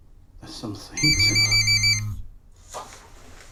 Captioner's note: phone ringing